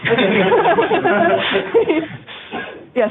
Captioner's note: laughter